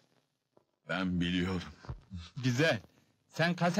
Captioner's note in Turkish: üzgün sesle